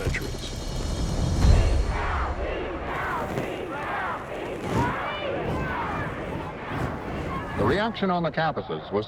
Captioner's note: chanting